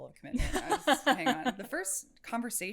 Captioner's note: laughs